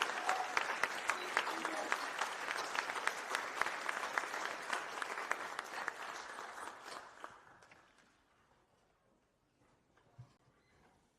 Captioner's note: applause